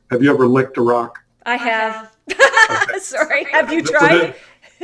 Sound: laughs

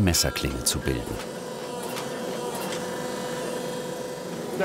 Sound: machine whirring

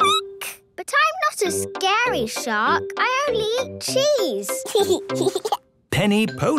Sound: squeaking; giggling

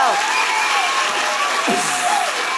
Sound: applause

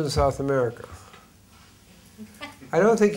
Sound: laughs

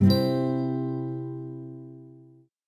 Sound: ding

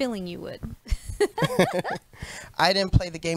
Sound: both chuckle

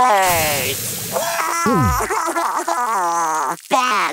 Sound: cries

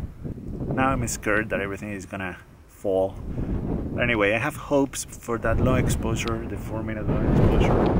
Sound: wind

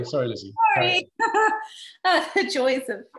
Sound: chuckles

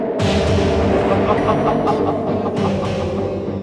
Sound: evil Laugh

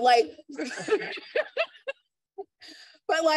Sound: laughter

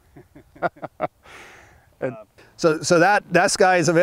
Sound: chuckle

